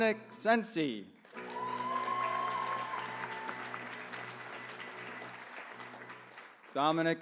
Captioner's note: applause